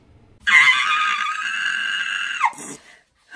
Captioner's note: screaming